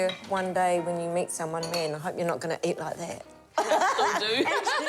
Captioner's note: laughs